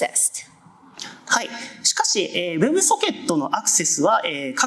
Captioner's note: speaking japanese